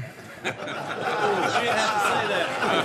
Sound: laughter

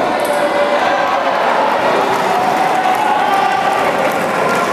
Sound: applause

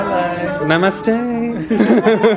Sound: laughs

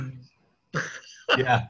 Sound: laughing

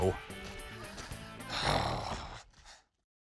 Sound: sighs

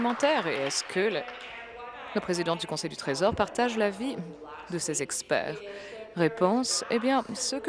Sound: applause

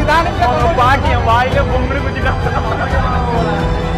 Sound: laughing

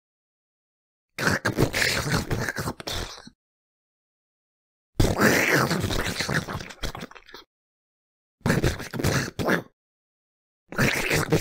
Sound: maggot monster noises

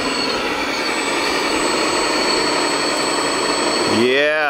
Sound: dozers revving

